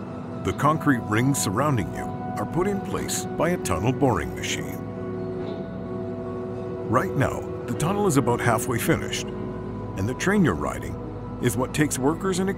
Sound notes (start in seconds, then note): none